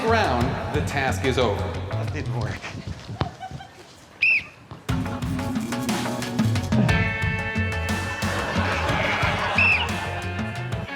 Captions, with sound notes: If a cushion touches the ground, the task is over. That didn't work. [blows whistle] [ducks quacking]